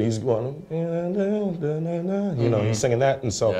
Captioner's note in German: summt